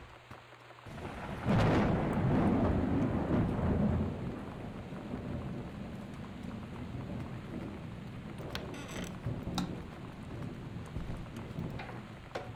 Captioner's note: thunder